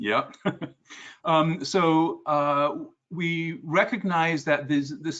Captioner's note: laugh